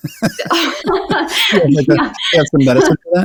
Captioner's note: both laugh